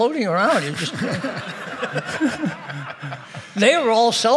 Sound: everybody laughing

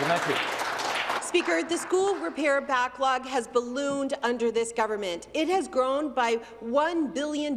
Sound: some Applause

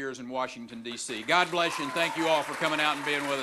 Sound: cheering and applause

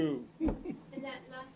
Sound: chuckles

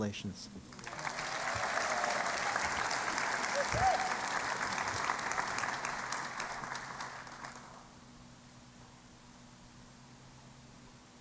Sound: applause

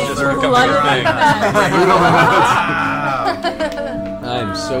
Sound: all laugh

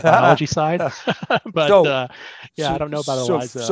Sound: both laughing

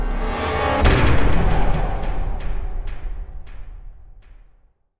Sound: impact

